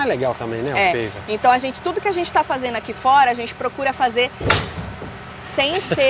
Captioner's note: bump noise